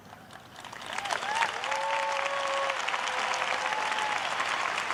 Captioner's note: cheers and applause